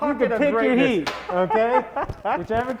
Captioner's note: laughing